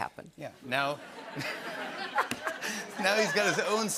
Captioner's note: laughter